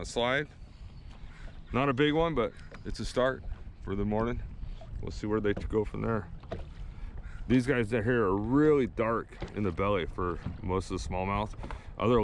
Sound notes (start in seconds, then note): none